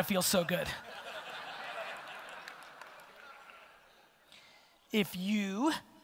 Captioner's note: audience laughter